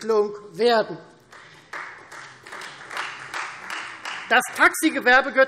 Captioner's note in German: Beifall Freie Demokraten